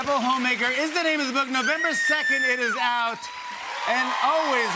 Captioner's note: cheers and applause